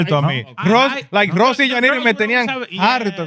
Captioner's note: speaking In Foreign Language